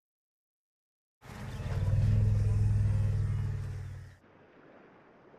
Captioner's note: rumbling